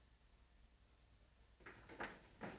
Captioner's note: none